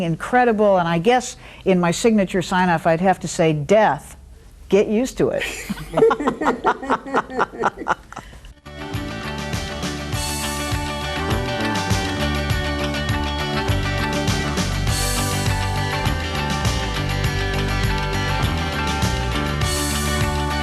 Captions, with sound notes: incredible, and I guess in my signature sign off, I'd have to say death, "Get Used to It." (laughs) (upbeat music)